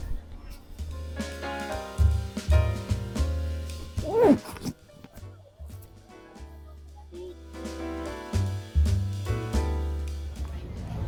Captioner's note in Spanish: Se oye como se cierra la cremallera de la chaqueta 🤣